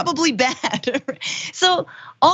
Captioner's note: laugh